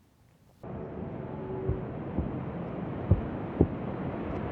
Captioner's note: heart beating